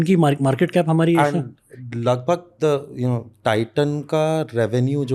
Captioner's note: speaks in Hindi